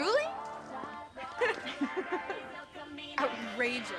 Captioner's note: laughing